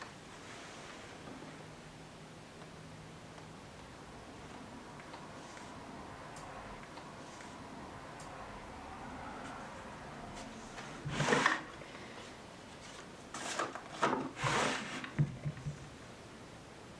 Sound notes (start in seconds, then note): none